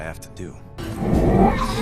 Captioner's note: Ventress choking